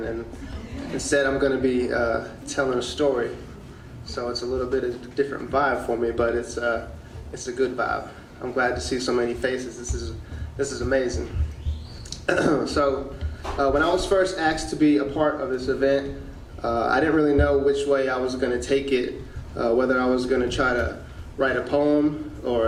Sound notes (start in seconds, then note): 12.1 clearing throat